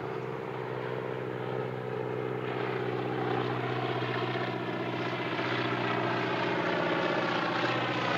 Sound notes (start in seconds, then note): 0.0 plane engine roaring